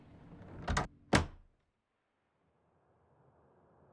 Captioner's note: door latching